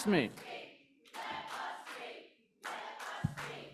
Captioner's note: chanting